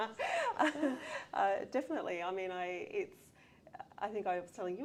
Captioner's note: laughter